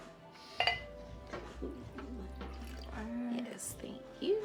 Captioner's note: wine pouring